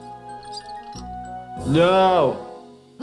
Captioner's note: wheel squeaking